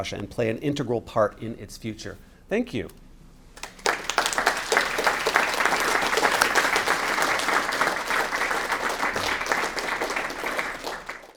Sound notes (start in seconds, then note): 3.6 applause